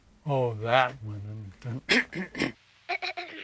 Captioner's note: clears Throat